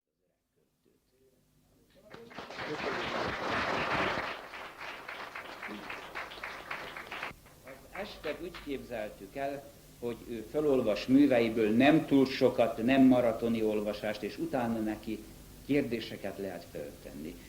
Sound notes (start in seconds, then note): 2.0 applause